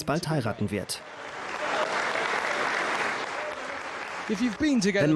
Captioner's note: audience applauds